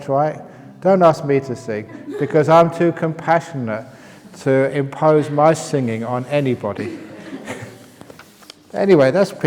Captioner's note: laughs